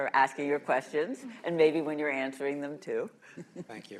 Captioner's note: laughter